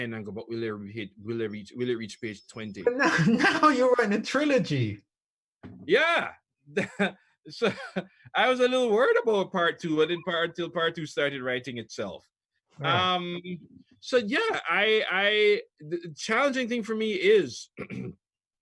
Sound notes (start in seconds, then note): 6.8 chuckles